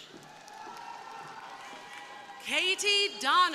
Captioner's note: crowd cheering